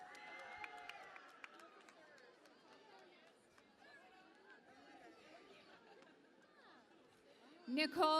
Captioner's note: cheering and Applause